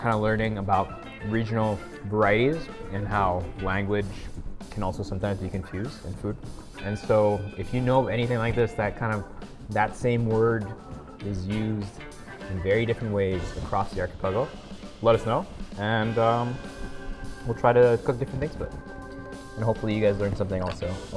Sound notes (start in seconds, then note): none